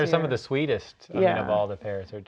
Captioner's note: laughing